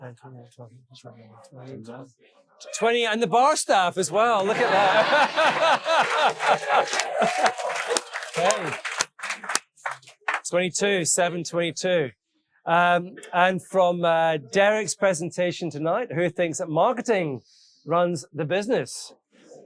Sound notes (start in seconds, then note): 3.7 all laughing; 6.3 audience applauding and cheering